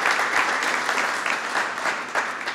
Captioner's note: applause